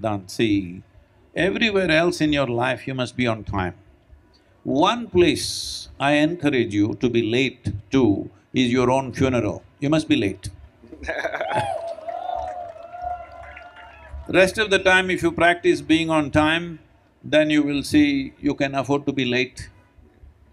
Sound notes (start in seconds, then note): 10.9 Siddhant laughs; 11.2 cheering/Applause